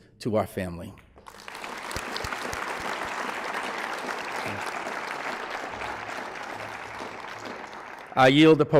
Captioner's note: applause